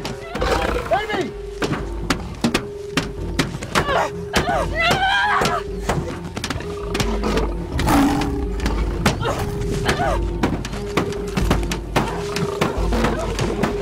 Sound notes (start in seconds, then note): 0.2 Grunting; 7.5 Grunting, Screaming